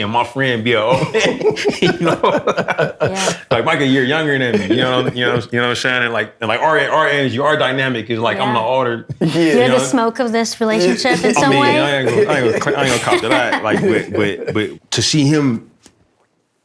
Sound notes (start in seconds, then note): 0.9 laughter; 10.8 laughter